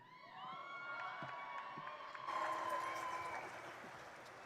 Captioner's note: crowd cheering